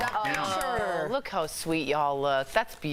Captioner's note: applause